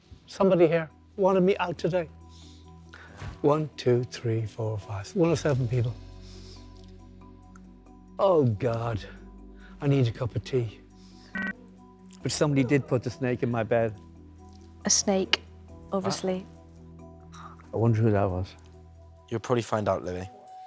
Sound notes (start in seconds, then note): none